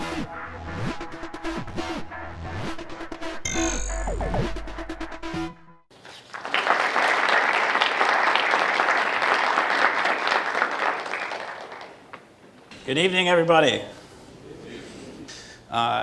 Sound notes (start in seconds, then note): 5.9 applause